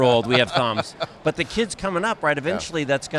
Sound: chuckles

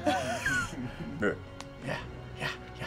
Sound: laughter

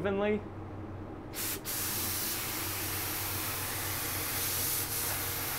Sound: paint spraying

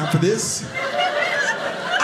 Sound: audience laughing

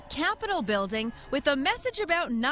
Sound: nats - cheering

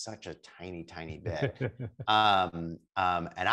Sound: chuckles

